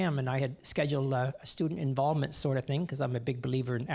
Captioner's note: none